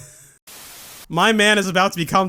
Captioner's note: static